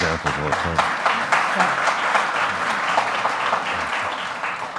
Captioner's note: audience applauds